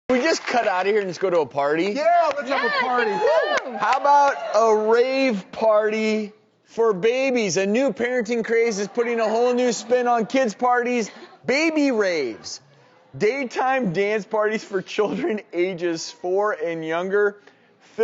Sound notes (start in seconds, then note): 2.1 audience cheering